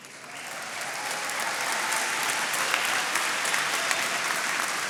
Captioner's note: attendees applauding